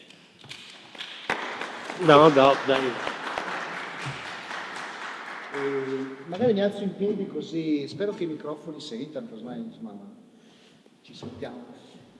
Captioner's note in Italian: Applauso